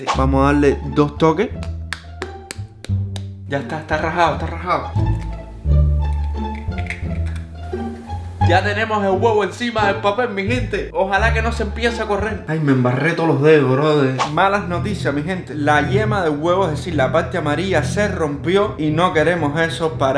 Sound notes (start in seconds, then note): 1.5 cracks; 6.0 crunch